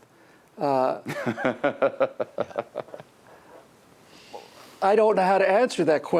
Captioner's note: laughing